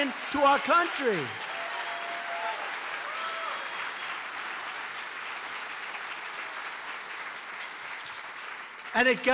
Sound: applause

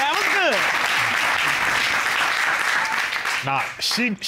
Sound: applause

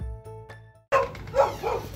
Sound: barking

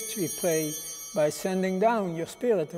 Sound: bell ringing

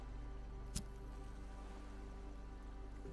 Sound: lighter Clicks

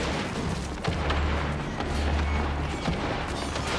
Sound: gunfire

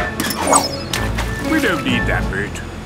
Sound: splashes

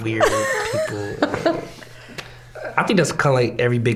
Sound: all laughing

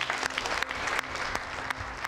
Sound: people clap hands

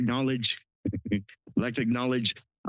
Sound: laugh

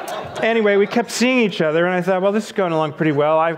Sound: audience laughs

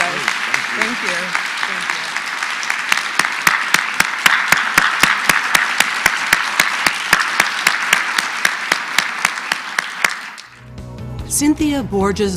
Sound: applause

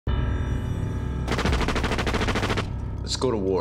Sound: gunfire

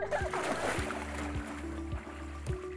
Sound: water splashing; calm upbeat music

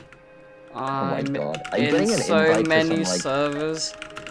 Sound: typing

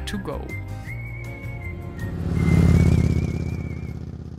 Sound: motorbike roaring

